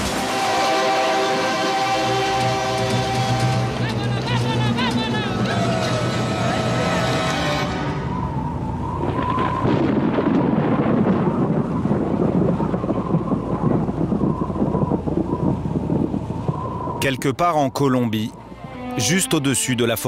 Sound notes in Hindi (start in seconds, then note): 4.0 स्पैनिश बोलते हुए; 9.7 आंधी